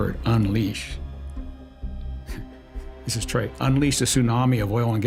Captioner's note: chuckling